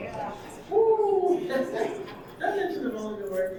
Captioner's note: audience laughing; laughs